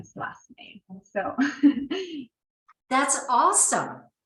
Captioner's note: laughing